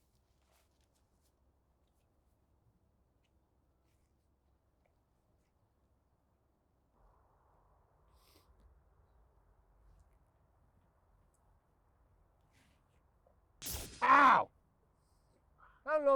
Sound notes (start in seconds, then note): 8.2 soldier sniffles; 13.6 zapping noise